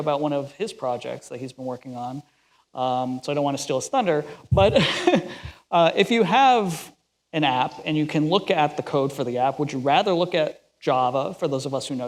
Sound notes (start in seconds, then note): 4.6 laughs